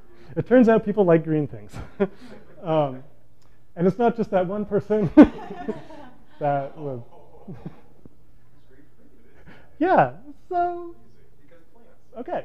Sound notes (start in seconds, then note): 7.8 laughs